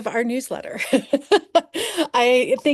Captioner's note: laughing